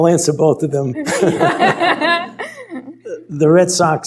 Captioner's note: laughter